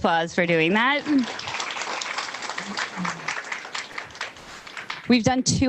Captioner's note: audience applauding